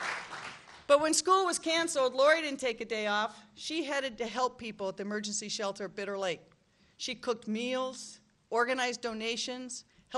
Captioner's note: applause; applause